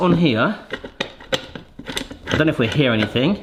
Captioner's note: metal rattling